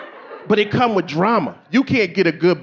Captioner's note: audience laughing